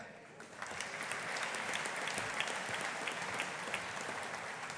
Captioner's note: audience applauding